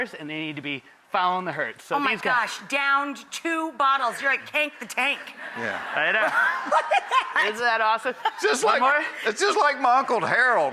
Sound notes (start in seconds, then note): 8.2 laughs